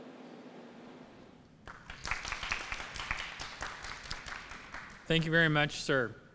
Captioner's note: applause